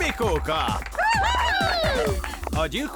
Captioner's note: cheering